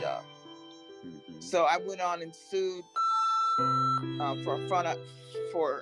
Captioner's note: beep